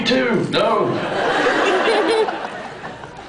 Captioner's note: laughs